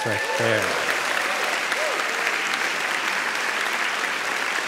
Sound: audience cheering

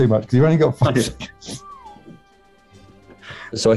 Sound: laughs

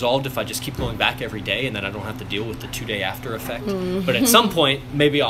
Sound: laughs

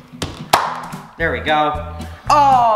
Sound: pop

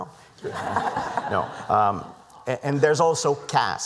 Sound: laughter

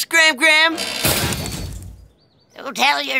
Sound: thudding

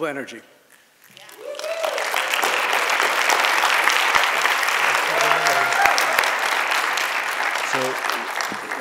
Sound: applause

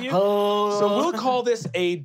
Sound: moaning

